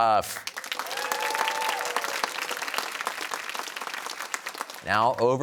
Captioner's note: cheers and applause